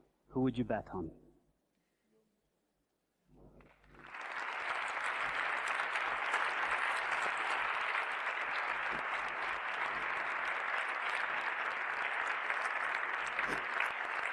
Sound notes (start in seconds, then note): 3.7 applause